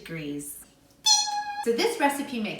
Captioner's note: imitates oven beep